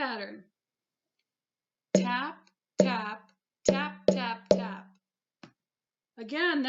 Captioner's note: tap - tap - tap tap tap